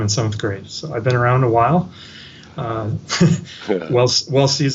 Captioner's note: laughs